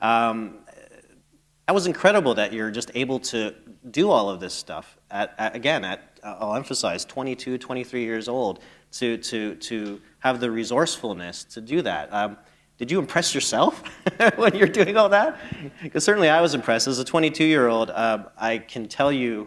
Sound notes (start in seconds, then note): 15.3 chuckle